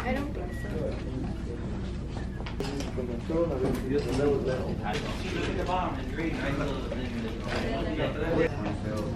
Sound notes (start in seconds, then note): 4.0 students murmuring